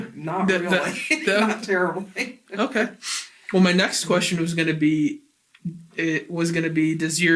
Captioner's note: laughs